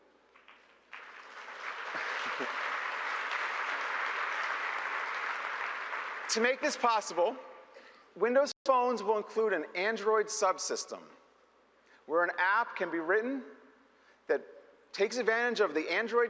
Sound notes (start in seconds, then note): 5.0 applause